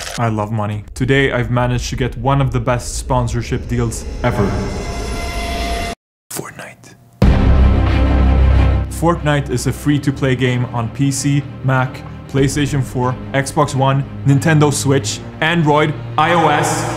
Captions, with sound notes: I love money. Today I've managed to get one of the best sponsorship deals EVER. (whispered) Fortnite Fortnite is a free to play game on PC, Mac, PlayStation 4 Xbox One, Nintendo Switch, Android, iOS